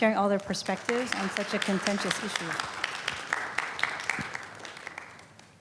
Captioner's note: applause